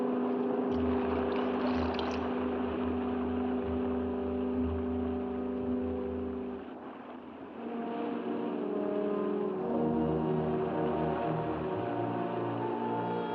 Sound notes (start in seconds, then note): 0.1 ominous music; 0.1 water splashing; 3.3 ominous music; 5.9 waves rolling; 12.6 ominous music